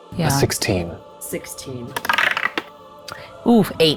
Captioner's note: die rattles